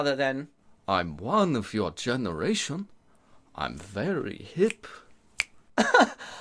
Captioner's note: fingers snap